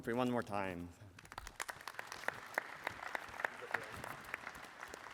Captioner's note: applause